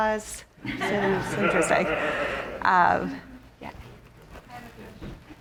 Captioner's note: audience laughing